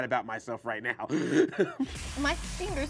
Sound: laughing

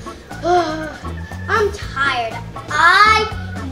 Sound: yawns

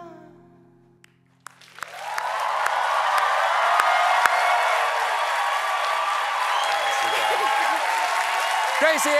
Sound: applause

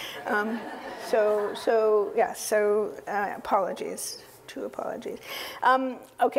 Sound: laugh

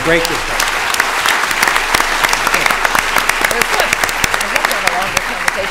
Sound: applause

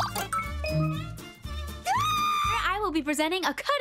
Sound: squealing

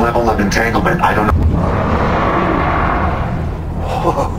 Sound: angry noises

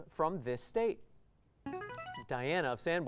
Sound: player buzzer

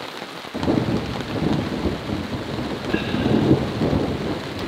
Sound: thunder rumbles

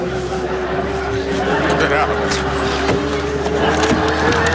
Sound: audience laughs

